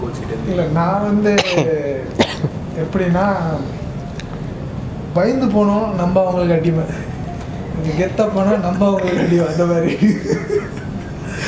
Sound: laughs

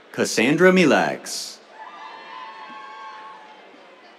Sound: cheers

